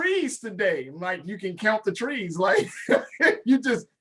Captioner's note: laughs